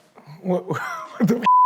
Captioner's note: beep